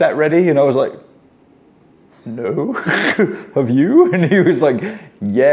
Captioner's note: laughing